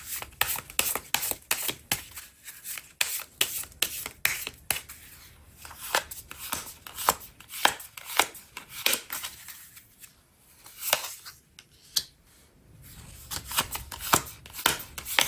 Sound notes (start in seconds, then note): 4.4 drawing cards